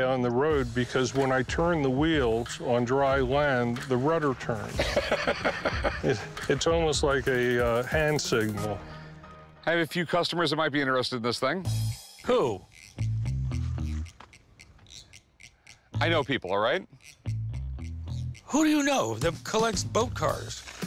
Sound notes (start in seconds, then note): 4.8 laughs